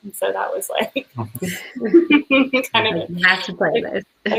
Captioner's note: laughing